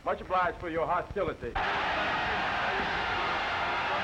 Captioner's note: all shouting